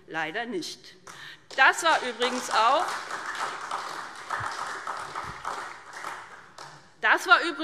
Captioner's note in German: Beifall SPD und Freie Demokraten